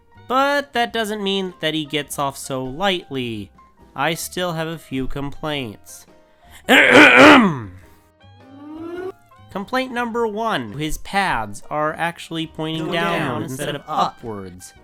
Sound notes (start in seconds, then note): 6.7 clears Throat; 8.4 siren